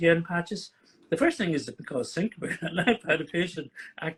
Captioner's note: chuckles